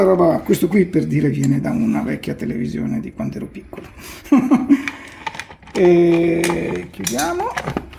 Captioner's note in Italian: risata